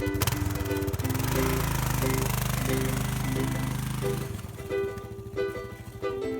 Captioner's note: engine rumbling; motorcycle departing